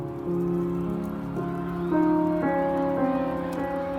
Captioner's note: sirens ringing